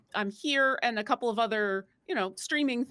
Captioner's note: none